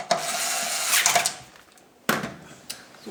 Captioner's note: screwing noises